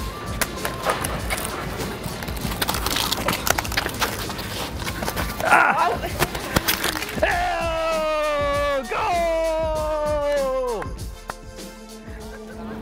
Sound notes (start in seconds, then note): 1.8 scratches; 5.2 groans; 7.2 cheers